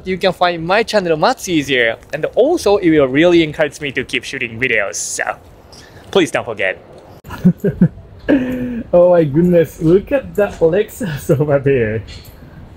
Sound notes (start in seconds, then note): 7.2 chuckles